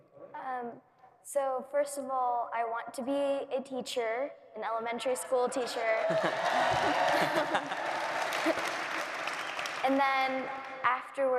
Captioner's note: cheering